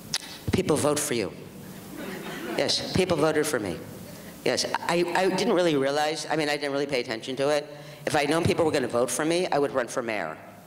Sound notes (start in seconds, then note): 1.9 audience laughs